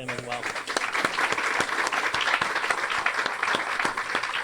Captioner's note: everyone applauds